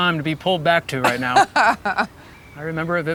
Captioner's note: Gwyneth chuckling